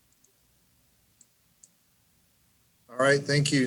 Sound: mouse clicks

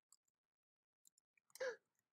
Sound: gasp

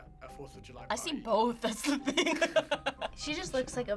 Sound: laughs

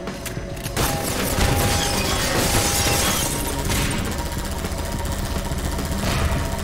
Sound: gunshots; turret revving

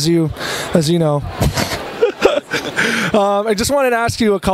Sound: laughs

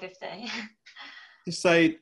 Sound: laughing

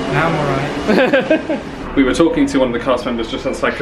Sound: laughs

